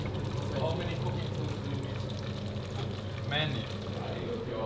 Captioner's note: group chatter